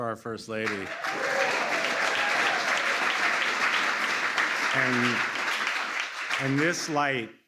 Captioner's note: applause